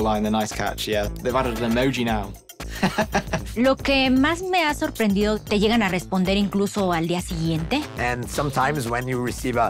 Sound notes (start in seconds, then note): 2.8 laughs; 3.7 speaks in Spanish